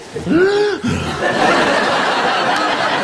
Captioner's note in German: Nach Luft schnappen